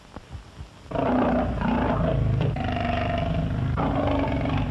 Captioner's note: roaring